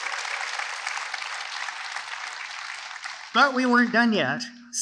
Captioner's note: applause